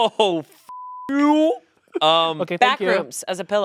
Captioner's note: beep